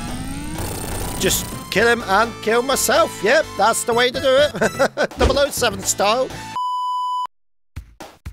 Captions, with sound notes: Just kill him and kill myself. Yup, that's the way to do it! [chuckles] 007-style!